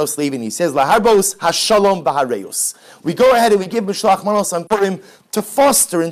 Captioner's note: Hebrew